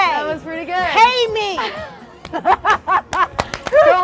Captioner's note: laughs